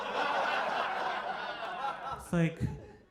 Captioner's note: audience laughing